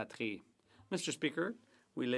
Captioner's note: speaking French